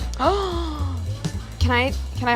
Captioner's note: gasps